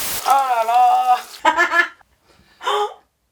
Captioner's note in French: rires